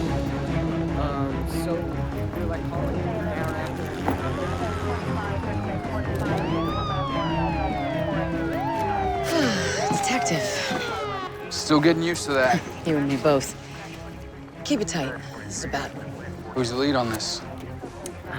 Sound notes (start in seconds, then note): 4.2 police radio chatter; 9.2 sighs; 12.3 chuckles